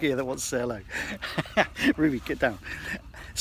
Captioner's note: laughs